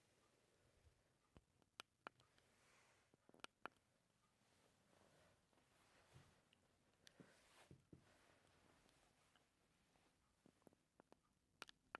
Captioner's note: keyboard clicking